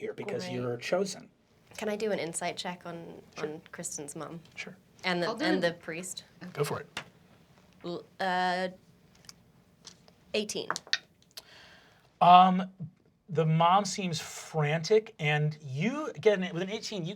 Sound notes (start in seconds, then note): 7.5 die rolls